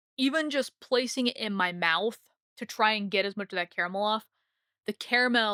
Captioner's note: none